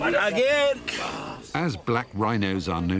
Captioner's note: man speaking a foreign language